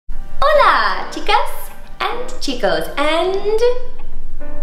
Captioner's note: speaking Spanish